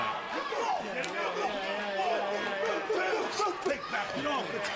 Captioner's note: crowd chatter